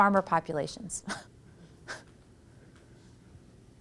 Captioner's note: laughs